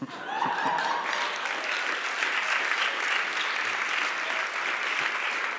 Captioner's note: applause